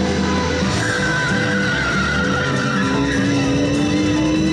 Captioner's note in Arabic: اصوات صرير الاطارات